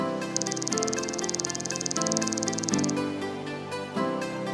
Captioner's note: keyboard clacking